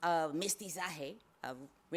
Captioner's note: speaks foreign language